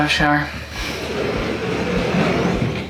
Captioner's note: door slides shut